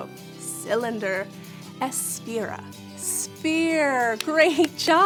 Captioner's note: speaking in foreign language